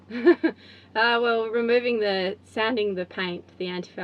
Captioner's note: laughs